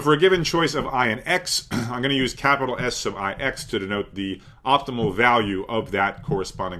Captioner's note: cough